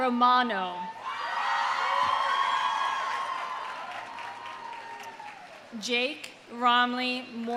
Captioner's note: audience cheering; audience applauding